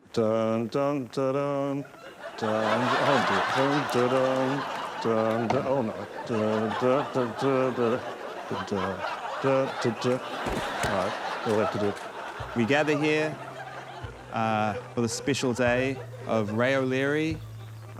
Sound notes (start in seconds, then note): 0.2 sings; 2.6 audience laughs; 4.5 resumes singing; 10.3 soft thud